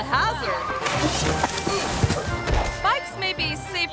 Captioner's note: bike crashing